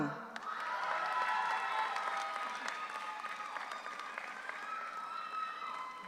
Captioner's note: audience applauds; audience cheers